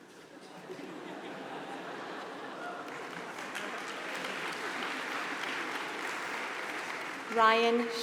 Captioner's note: laugh; applause